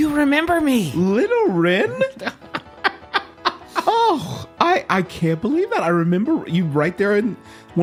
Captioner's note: laughs